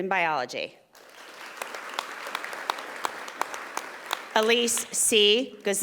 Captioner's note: audience applauding